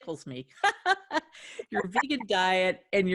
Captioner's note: laughing